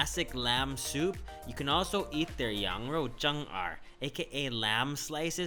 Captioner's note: speaking foreign language